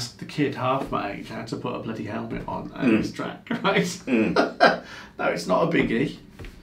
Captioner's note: laughs